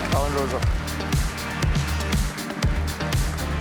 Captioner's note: cheers, applause